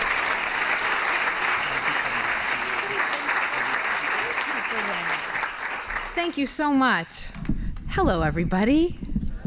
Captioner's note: applause